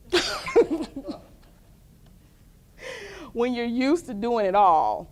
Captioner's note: laughter